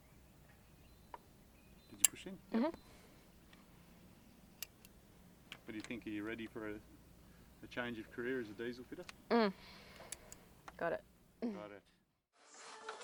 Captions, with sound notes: (click) Did you push in? - Mm-hmm. - Yeah. What do you think? Are you ready for a change of career as a diesel fitter? - (straining) Got it. - Got it.